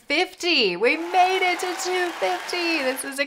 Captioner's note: applause